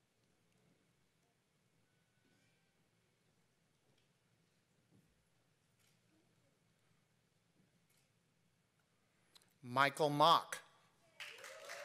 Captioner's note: applause